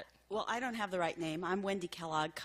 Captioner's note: voiceover